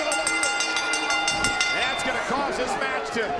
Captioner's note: bell rings